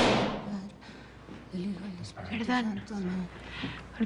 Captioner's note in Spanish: Portazo